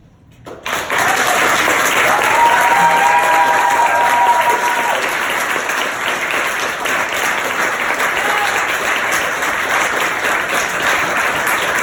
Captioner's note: applause while I grin proudly